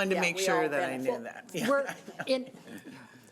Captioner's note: laughs